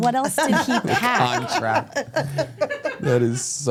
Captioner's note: laughs